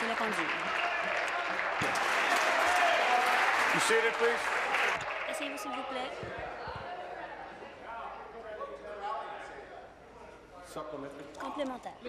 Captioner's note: applause